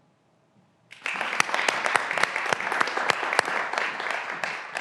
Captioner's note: graduands applauding